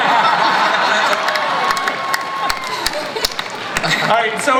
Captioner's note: cast and audience laugh